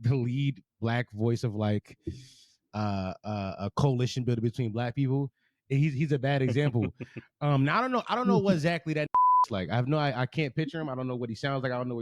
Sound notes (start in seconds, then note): 9.1 beep